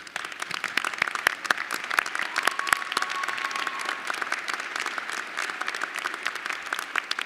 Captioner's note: applause